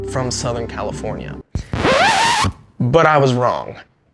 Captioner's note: record scratches